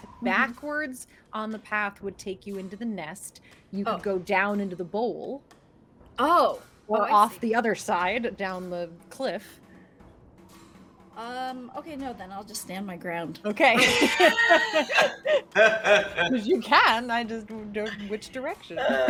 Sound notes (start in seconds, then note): 13.7 characters laugh